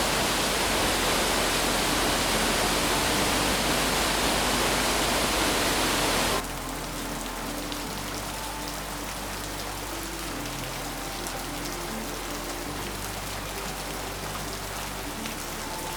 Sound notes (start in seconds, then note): 6.3 water pitter pattering